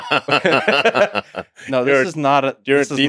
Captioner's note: both laughing